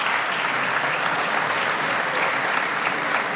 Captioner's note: applause